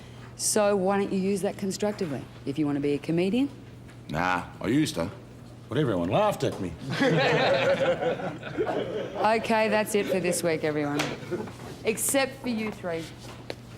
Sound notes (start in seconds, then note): 6.9 all laugh